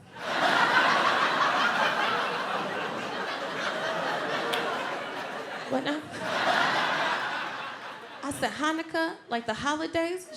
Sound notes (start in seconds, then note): 0.0 audience laughs